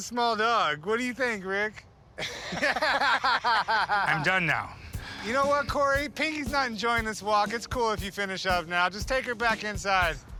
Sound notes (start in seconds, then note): 2.2 both laughing